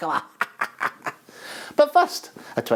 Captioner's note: laughs